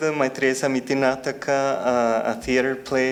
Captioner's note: speaking in foreign language